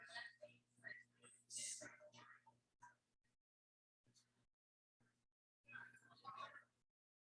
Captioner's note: people chattering indistinctly continues